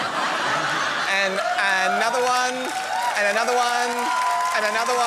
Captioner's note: laughter; cheering